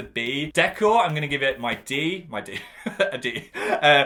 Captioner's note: laughs